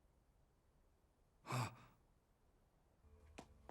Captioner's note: gasps